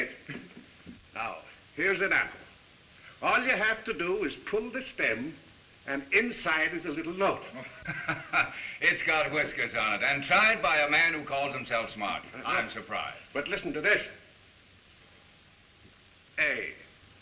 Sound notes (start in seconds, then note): 7.4 chuckles